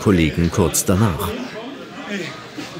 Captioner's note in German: Stimmengewirr